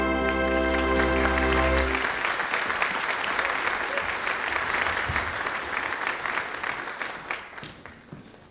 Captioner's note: applause